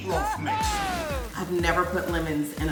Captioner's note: cheering